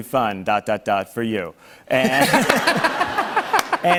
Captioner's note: laughter